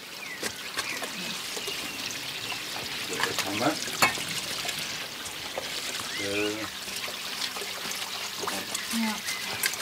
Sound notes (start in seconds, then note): 1.5 water splashing